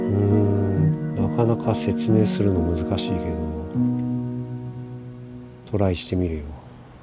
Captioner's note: man in Japanese